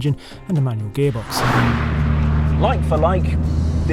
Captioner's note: car roaring